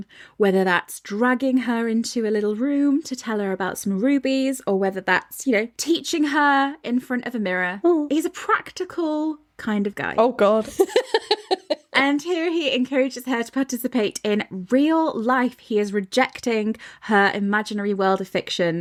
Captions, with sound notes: whether that's dragging her into a little room to tell her about some rubies, or whether that's teaching her in front of a mirror. He's a practical kind of guy. Oh, God. (laughing) And here he encourages her to participate in real life. He is rejecting her imaginary world of fiction.